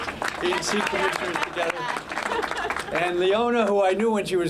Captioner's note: applause